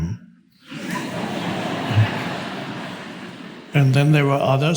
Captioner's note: audience laughs